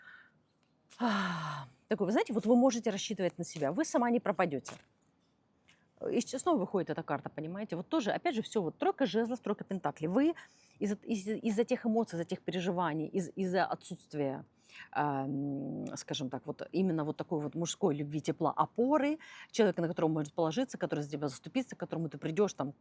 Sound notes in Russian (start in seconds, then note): 0.9 вздыхает; 0.9 тяжело вздыхает